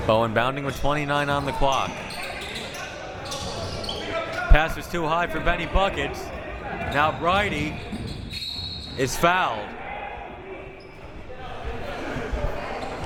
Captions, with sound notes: Bowe in bounding with 29 on the clock. Pass was too high for Benny Buckets, now Brydie (whistle) is fouled.